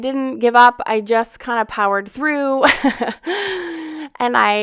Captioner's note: laughs